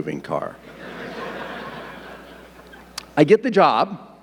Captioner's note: audience laughing